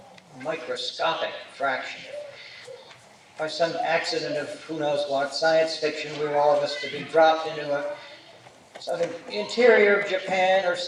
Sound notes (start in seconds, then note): none